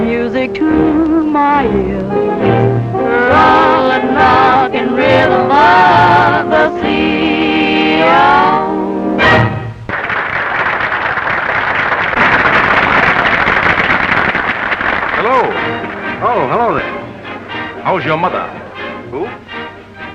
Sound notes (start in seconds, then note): 9.8 applause